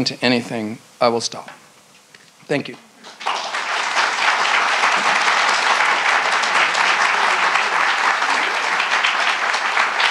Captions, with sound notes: to anything, I will stop. Thank you. (audience claps)